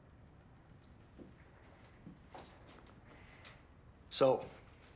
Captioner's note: footstep